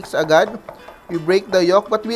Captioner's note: knock